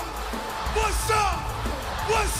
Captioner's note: crowd cheering